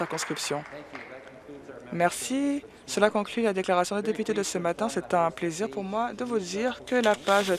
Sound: applause

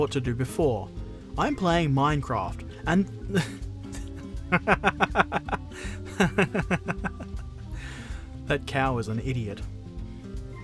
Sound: laughter

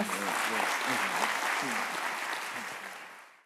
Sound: applause

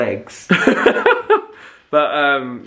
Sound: laughs

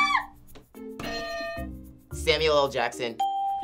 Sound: laughs; bell rings; ding

